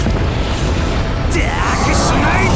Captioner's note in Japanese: 雄たけび